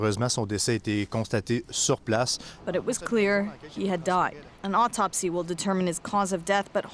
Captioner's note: speaking French